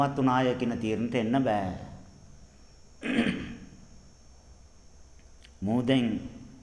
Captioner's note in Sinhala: උගුර කෑරීම